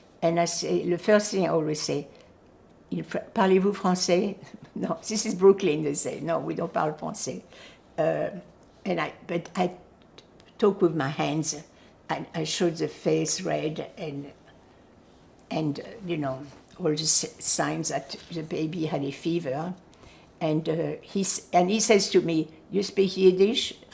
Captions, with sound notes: And I said, the first thing I always say, "[FRENCH]?" "No, this is Brooklyn," they say, "No, we don't [FRENCH]." But I talk with my hands. I showed the face red and, and you know, all the signs that the baby had a fever. And he says to me, "You speak Yiddish?"